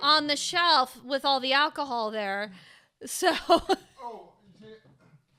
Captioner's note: laughing